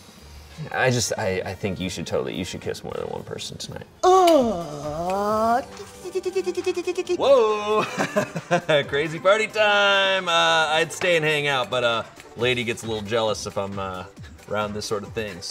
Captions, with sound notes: I think you should totally, you should kiss more than one person tonight. - (moans) - Whoa! (laughs) Crazy party time. I'd stay and hang out but lady gets a little jealous if I'm around this sort of thing